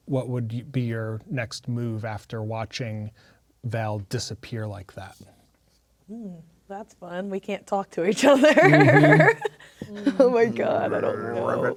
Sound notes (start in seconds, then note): 8.1 laughing